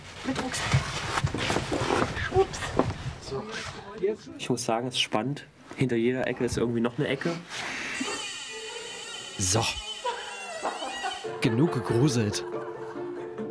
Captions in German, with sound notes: Mit Rucksack. Es ist spannend. Hinter jeder Ecke ist irgendwie noch eine Ecke. *Stuhl quietscht laut.* Genug gegruselt.